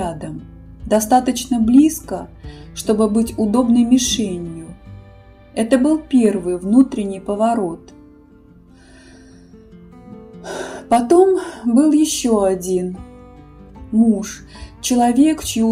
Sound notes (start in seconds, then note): 10.4 inhale